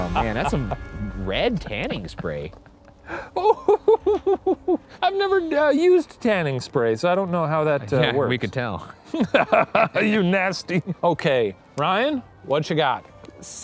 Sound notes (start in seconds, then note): 9.0 chuckles